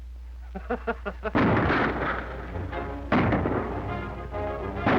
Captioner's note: gunfire